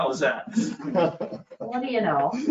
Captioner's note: chuckling